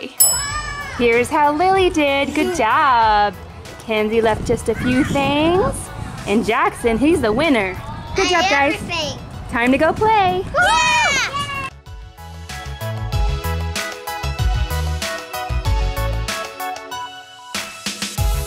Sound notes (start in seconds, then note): 0.0 bell rings; 10.6 children cheer; 12.0 upbeat music